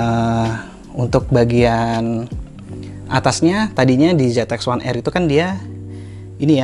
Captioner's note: air flow